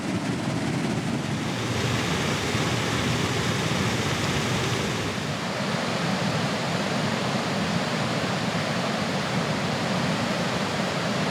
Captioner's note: river water flowing over dam spillways